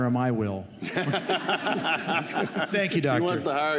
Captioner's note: laughter